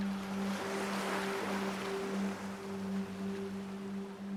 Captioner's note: waves lapping